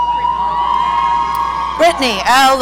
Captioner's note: audience cheering